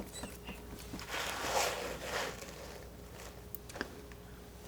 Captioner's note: scratching